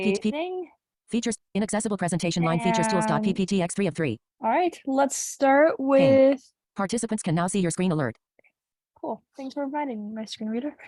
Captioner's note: screen reader in background